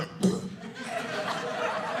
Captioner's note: audience laughing